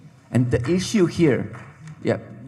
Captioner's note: scattered applause